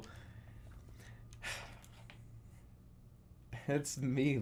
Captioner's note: exhales